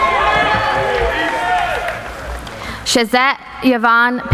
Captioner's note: applauding